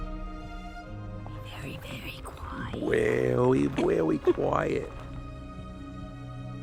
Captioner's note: whispering